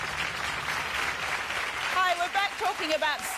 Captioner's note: audience applauding